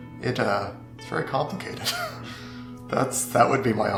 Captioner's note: laughing